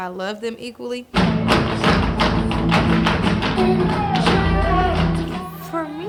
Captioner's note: loud tap steps beat on the floor